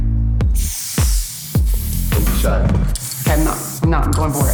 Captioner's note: spray paint hissing